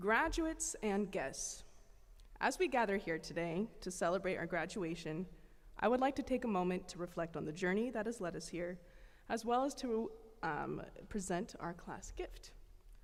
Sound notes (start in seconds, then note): none